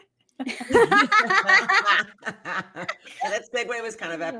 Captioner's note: cast laughing